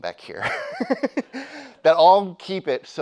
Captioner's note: laughs; audience laughing